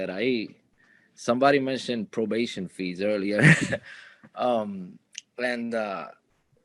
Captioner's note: chuckling